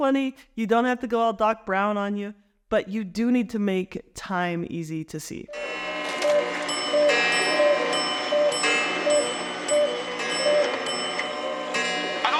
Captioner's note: clocks chiming